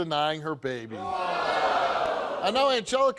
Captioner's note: audience gasping